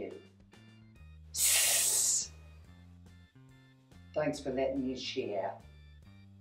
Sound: hssss

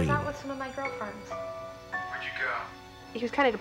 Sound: on phone

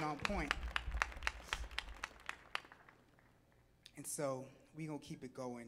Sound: audience clapping

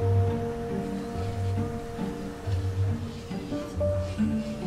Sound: faint sanding noises

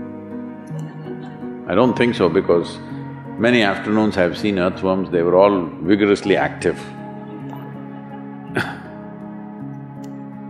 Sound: laughter; few laugh

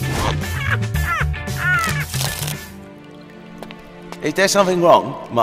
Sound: laughing

